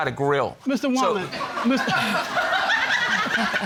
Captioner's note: audience laughing